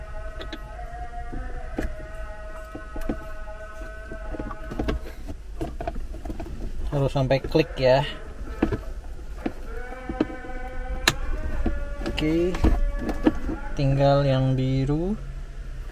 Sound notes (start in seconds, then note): 11.0 clicks